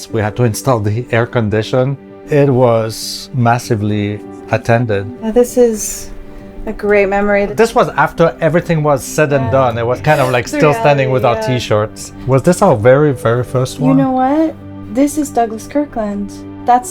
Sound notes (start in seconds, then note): 9.5 chuckles